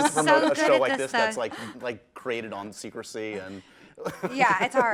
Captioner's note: laughs